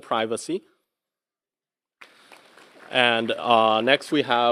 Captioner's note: applause